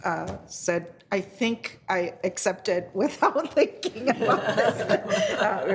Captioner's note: all laughing; laughs